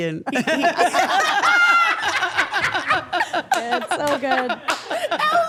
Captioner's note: everyone laughing